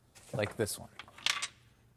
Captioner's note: expensive rattling